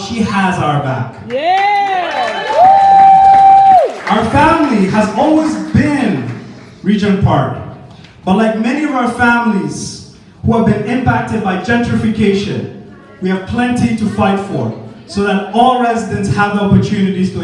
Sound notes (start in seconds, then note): 1.3 audience: yeah! applause cheers wooooooo